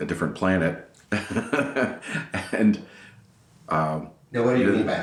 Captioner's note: laughing